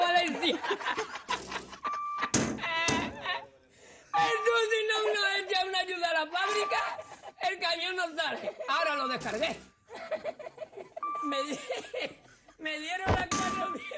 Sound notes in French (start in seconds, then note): 0.0 Rires; 1.3 bip; 2.6 Rires; 4.1 bip; 4.6 Rires; 6.5 bip; 8.1 Rires; 9.2 bip; 9.8 Rires; 11.0 bip; 11.5 Rires; 13.2 bip